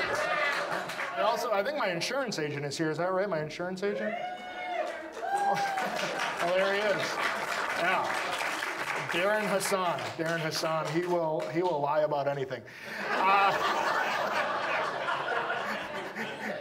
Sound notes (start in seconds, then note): 6.4 woman whooping in audience; 9.0 audience applauds; 12.9 audience laughs